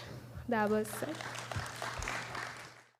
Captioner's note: applause